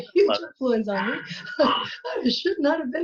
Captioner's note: laughs